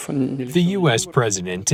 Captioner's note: through translator